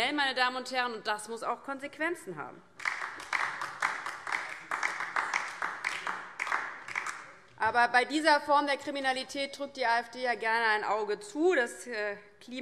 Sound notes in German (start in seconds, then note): 2.7 Beifall DIE LINKE